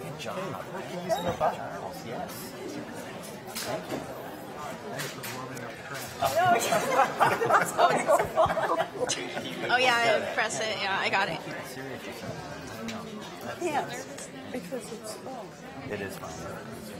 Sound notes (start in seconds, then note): 0.6 panelists chattering; 6.4 panelists laughing; 13.6 panelists chattering